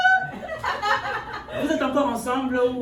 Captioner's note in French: rires